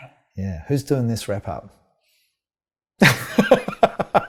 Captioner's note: laughing